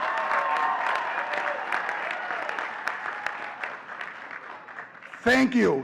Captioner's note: audience cheering and clapping